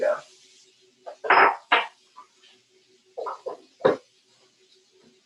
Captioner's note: dish clattering